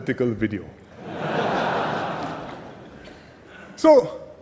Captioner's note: laughter